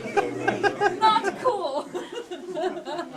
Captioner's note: laughing